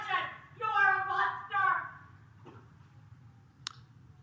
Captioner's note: protest utterances